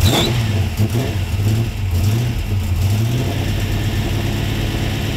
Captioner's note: engine revving